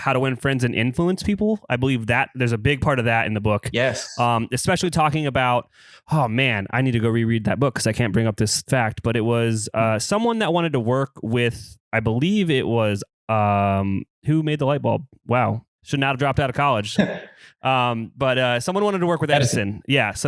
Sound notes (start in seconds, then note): 17.0 laughs